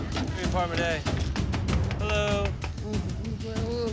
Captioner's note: knocking